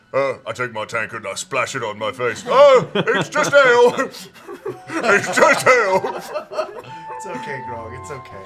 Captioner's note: coughs; sobs